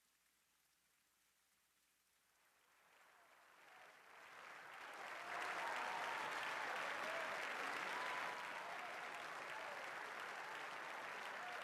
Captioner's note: applause; cheering